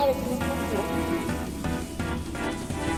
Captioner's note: electronic static